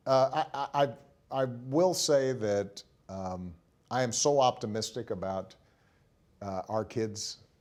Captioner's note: laughing